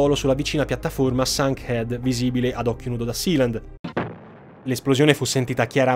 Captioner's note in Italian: esplosione